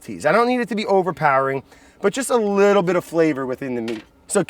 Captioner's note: none